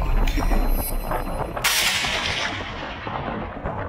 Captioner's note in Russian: выстрел